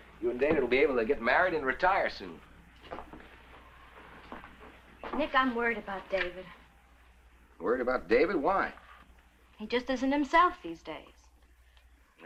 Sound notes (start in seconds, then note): none